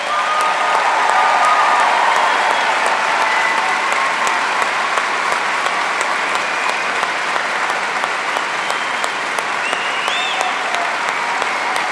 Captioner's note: applause